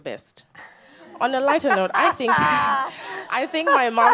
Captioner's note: audience laughs